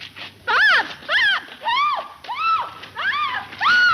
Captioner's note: Mary screaming